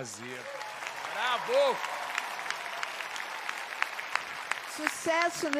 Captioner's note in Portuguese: ovação